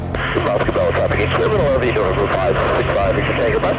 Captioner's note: upbeat music; voices babbling